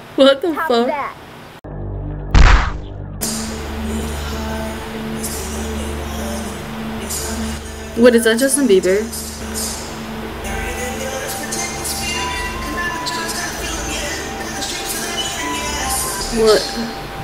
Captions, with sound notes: What the fuck? (slap sound effect) Wait is that Justin Beiber? What